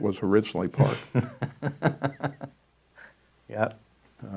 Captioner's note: laughs